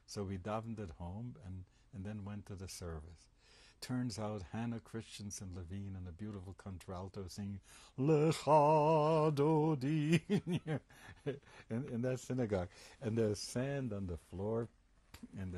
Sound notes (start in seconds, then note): 9.0 hebrew; 10.0 laughs